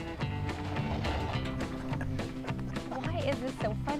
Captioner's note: truck revs